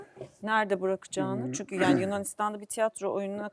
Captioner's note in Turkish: boğazını temizler